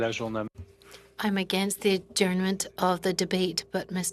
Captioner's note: speaking in French